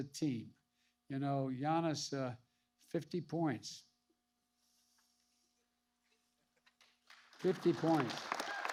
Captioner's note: applause